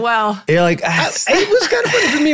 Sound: sighs

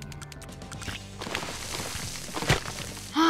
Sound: game Squish Noises

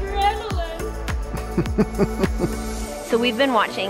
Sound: chuckles

